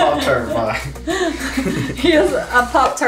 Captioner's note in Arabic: كلاهما يضحك